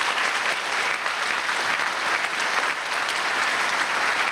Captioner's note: applause